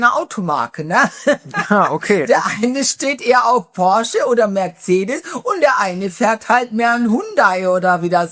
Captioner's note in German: gelächter